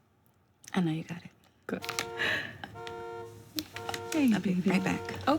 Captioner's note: car alarm